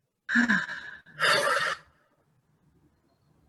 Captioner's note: heavy sighs